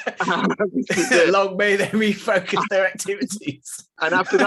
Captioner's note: laughs